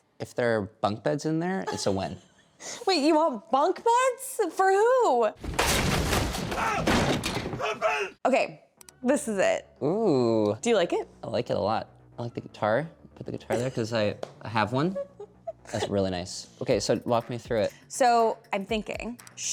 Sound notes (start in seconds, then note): 5.4 objects crashing; 7.6 man screaming